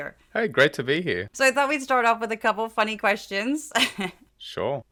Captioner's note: laugh